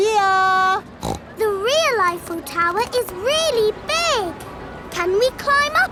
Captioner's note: snorts